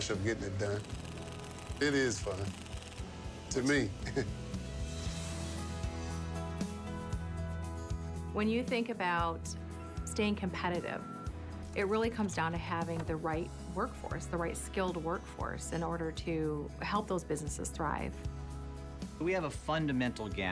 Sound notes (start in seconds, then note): 3.9 laughs